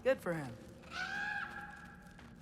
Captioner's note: caw